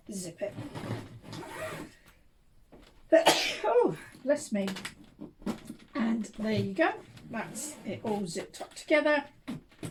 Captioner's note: sneezed